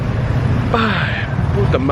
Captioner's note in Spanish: suspira